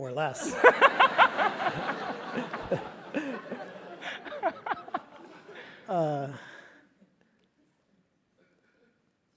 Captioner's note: laugh